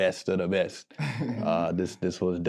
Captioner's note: group laughing